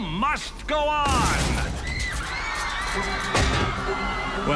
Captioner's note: crashes, people screaming